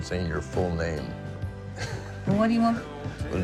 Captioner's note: laughs